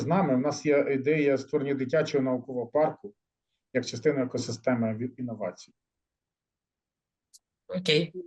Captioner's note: speaking ukrainian